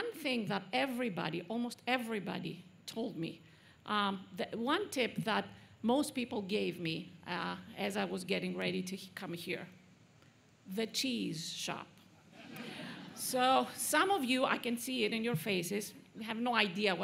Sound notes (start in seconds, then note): 12.2 laughter